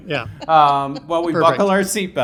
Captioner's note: laughs